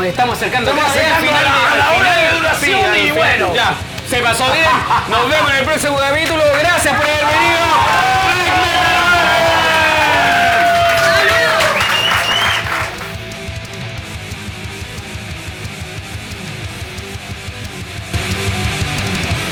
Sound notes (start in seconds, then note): 10.1 cheers and applauses